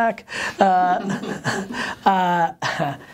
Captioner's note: laughter